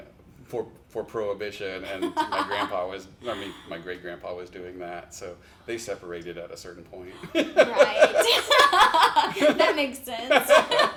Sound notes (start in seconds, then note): 1.9 laughs; 7.2 laughs